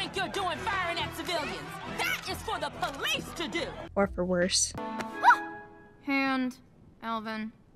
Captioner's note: yelps